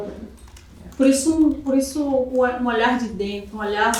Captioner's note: speaking portuguese